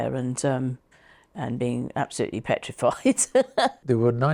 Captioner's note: laughs